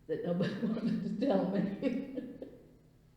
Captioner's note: laughs